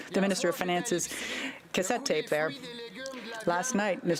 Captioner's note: speaking french